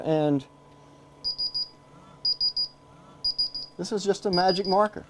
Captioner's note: beeping